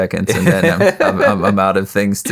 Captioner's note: laughing